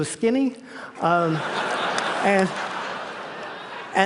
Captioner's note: laughter